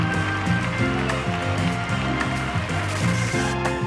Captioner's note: audience clapping; birds chirping